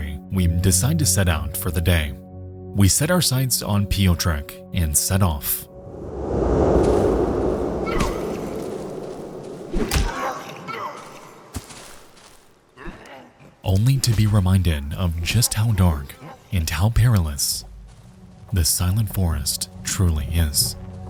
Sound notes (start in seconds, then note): 5.7 air whooshing; 6.1 savages grunting